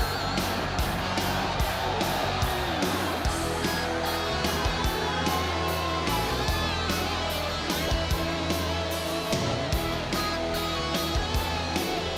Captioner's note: crowd cheering